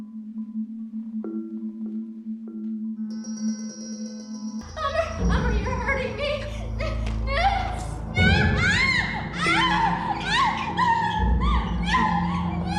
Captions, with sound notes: Amar, Amar you are hurting me. (screaming)